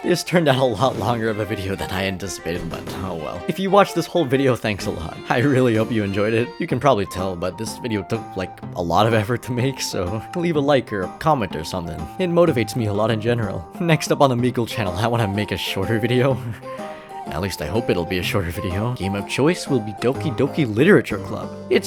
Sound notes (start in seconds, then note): 16.4 chuckles